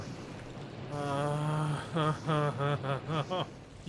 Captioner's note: whines irritably